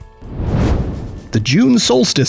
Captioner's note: whoosh